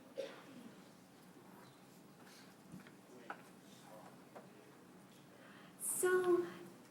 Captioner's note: silence